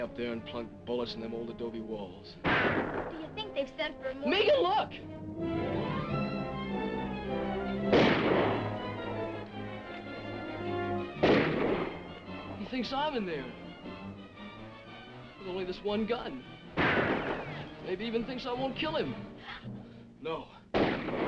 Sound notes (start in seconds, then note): 5.5 dramatic music; 7.8 guns firing; 11.0 dramatic music; 14.3 dramatic music; 20.7 guns firing